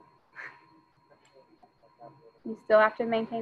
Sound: student speaking faintly

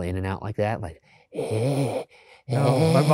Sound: breathing heavily; laughing

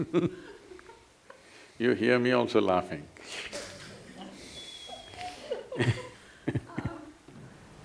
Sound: both laugh; laughter

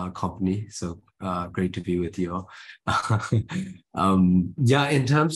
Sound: he chuckles

